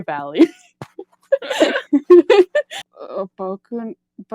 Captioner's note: laughs